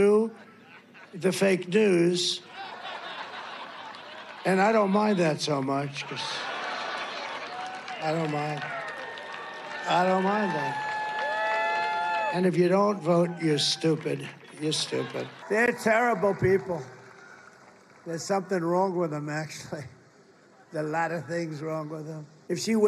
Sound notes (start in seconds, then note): 2.4 laughter; 14.6 laughter; 17.8 cheering and applause; 19.1 cheering and applause